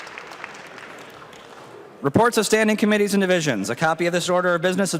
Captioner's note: applause